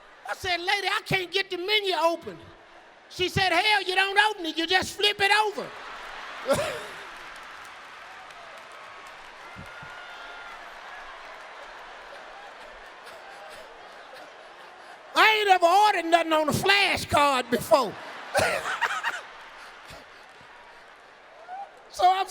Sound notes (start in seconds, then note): 6.5 Steve choking; 6.8 audience laughing; 13.0 Steve panting; 18.2 Steve laughing; 19.0 audience laughing